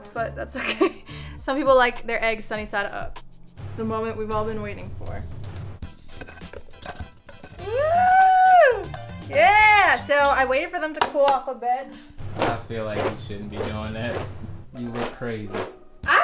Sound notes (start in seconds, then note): 5.8 upbeat music; 7.6 cheering